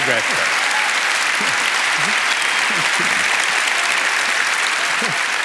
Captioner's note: applause